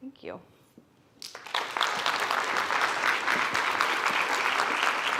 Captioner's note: attendees applauding